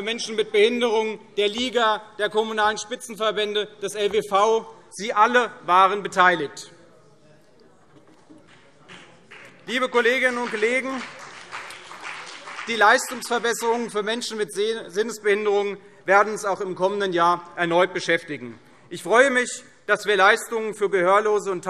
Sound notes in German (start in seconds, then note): 6.7 Beifall CDU und BÜNDNIS 90/DIE GRÜNEN